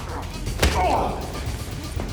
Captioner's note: smashes